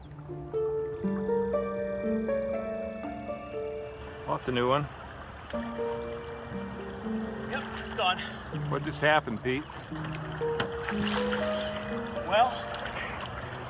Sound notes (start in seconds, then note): 3.9 gentle music; 11.3 water splashing